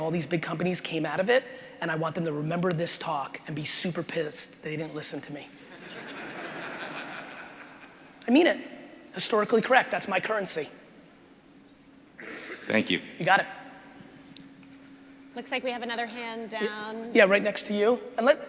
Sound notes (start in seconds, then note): 5.6 crowd laughing